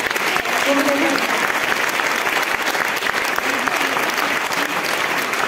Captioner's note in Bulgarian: аплодисменти